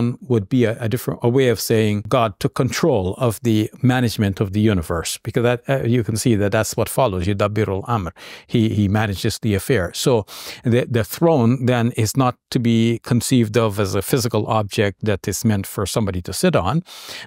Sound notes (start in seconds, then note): 7.5 talks Arabic